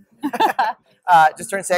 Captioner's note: laughs